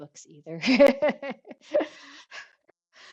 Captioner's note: laughs